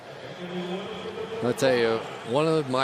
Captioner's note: pa announcement